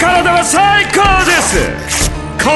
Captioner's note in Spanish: tela rompiéndose